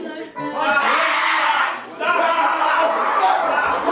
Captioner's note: screaming